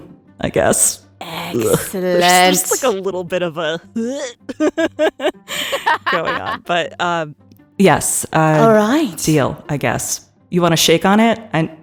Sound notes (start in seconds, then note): 4.4 laugh; 4.8 vomiting sound